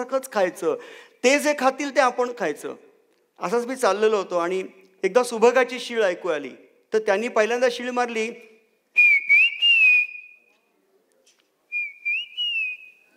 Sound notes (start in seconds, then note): 9.0 whistles like a bird